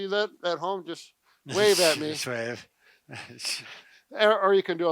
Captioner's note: laughs